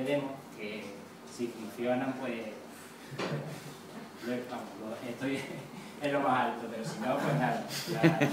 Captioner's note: laugh